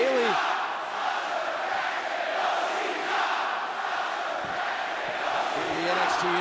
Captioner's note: crowd cheering